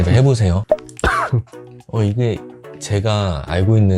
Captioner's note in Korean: 쿨럭